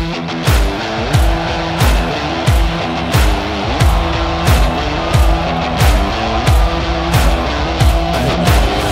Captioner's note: crowd screaming